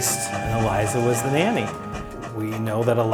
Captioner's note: train whistle sounds